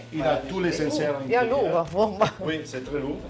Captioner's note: in Italian